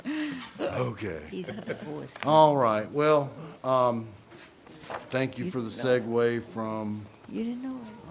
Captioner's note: laughter